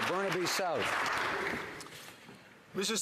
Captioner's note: some Applause